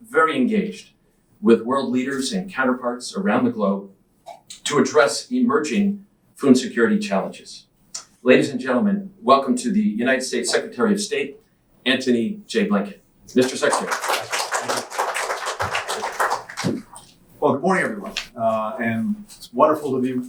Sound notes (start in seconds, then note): 13.3 applause